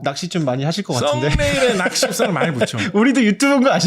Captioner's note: laughter